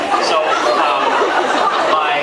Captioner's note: laughs